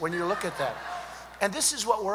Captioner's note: laughter